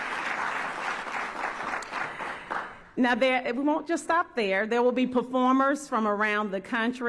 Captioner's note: applause